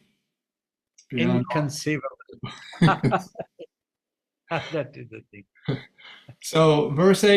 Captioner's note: laughs